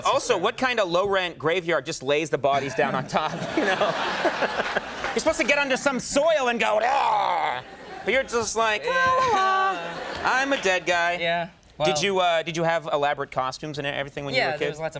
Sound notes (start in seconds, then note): 2.6 audience laughing; 6.9 Conan groaning